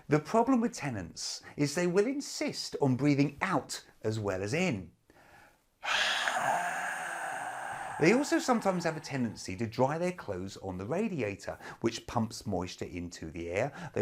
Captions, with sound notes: - The problem with tenants is they will insist on breathing out as well as in. (exhale) They also sometimes have the tendency to dry their clothes on the radiator, which pumps moisture into the air.